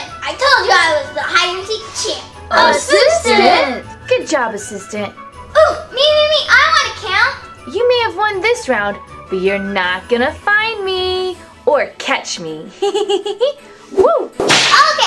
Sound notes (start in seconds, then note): 12.8 giggles